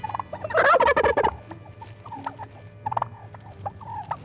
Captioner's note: gobbling